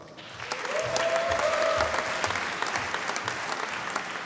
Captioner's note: applause